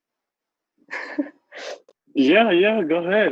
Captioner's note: laughs